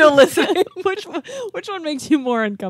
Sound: chuckling

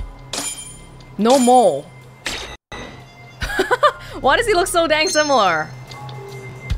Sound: laughs

